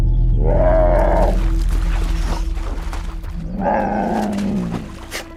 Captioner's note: wolf squeaks and huffs; bear growls angrily; wolf splashes in puddles